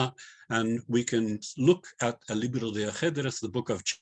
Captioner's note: non-english